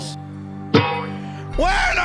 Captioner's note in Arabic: قعقعة معدنية